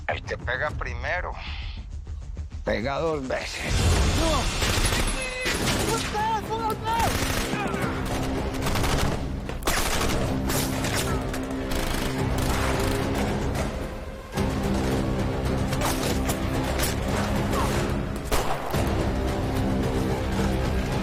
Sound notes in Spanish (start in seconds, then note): 6.1 Parcero exclama; 7.9 Disparos